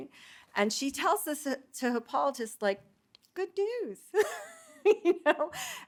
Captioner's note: laughing